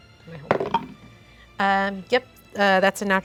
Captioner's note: dice clatter